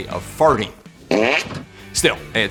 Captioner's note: fart noise